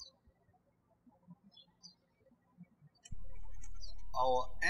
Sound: birds chirping

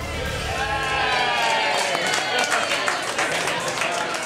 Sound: cheers and applause

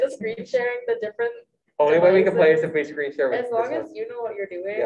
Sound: light laughter

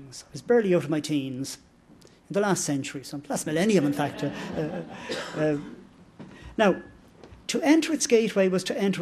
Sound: laughter

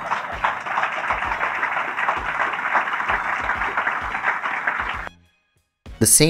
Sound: applause

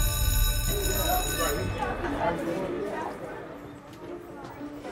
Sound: school bell ringing

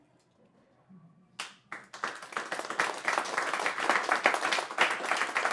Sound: applause

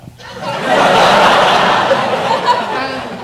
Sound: audience laughs

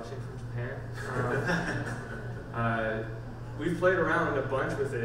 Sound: panel laughs

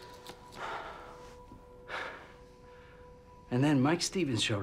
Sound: sighs

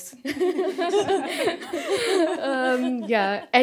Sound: laughter

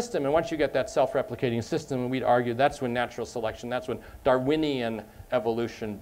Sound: none

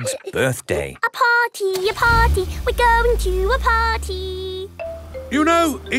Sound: giggling; sing song voice

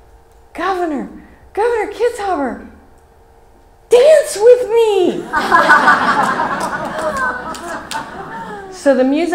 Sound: laughs from audience

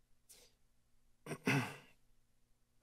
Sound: clears throat

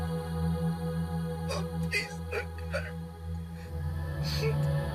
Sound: crying

